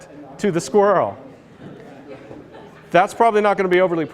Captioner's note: laughter